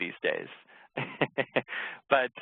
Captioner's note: laughs